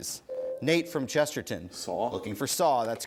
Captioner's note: ding